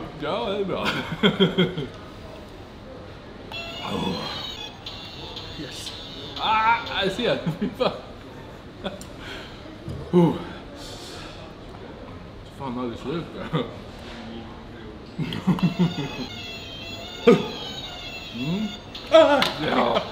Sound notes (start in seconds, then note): 3.6 game Sound